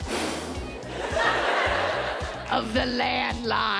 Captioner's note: whoosh